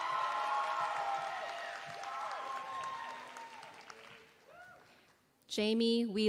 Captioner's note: applause